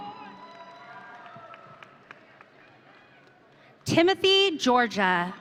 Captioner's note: audience cheering